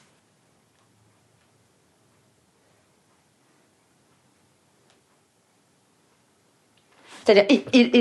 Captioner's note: uncomfortable silences